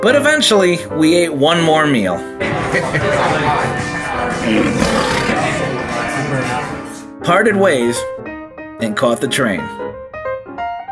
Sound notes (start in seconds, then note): 4.4 laughs; 6.7 lion growling